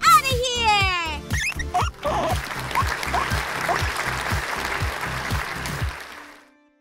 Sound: squeaking; applause

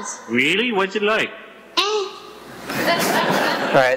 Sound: laughter

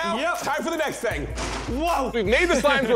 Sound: slime clatters

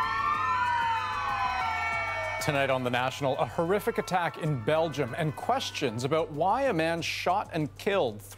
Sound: sirens

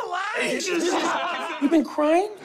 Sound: crowd laughs

